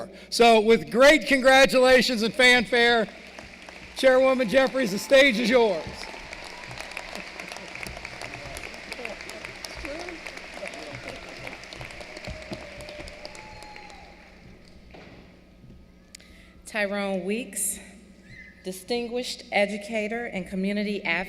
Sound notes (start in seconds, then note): 6.2 applause